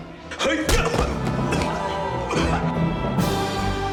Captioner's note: coughing; inspirational music